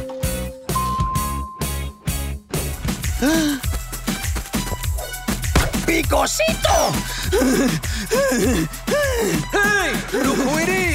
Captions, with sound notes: [dinging] [gasping] [speaking Spanish] [panting] Hey, look who it is!